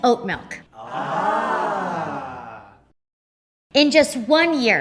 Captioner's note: awing